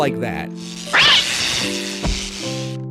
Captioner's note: cat meowing